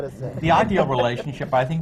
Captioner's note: laughter